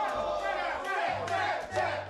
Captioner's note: cheering